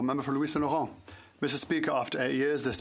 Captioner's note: speaking French